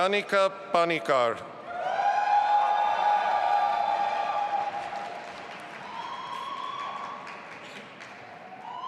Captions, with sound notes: Nayanika Panickar. (audience applauding and cheering)